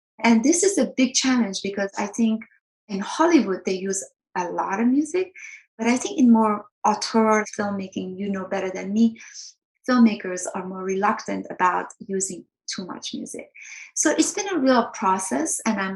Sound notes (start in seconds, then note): none